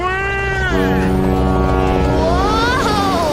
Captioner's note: ship horn blasting